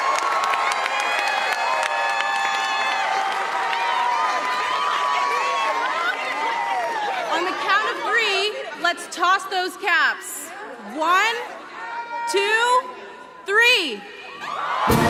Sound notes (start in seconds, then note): 0.0 cheers and applause; 8.7 applause